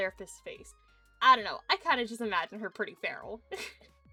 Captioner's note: giggles